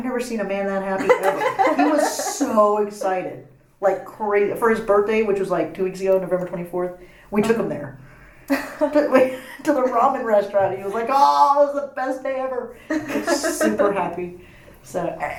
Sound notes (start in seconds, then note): 1.0 laughs; 9.0 laughing; 12.9 laughs